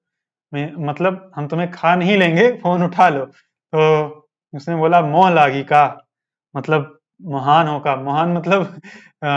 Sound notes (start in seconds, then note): 4.2 speaks in local language